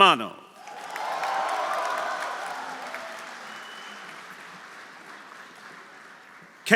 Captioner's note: audience applauding; audience cheering